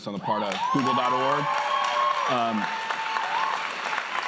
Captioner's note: cheers and applause